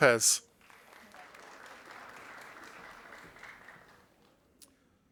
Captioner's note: audience applauding